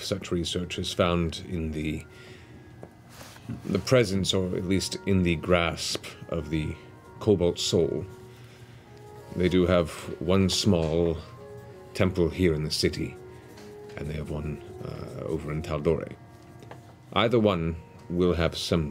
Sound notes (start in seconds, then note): none